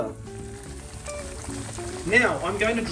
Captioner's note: schnitzel sizzling